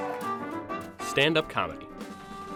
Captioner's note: clapping